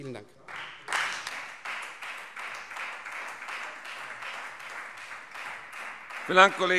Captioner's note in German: Beifall Freie Demokraten